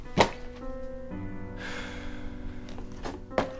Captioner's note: exhales sharply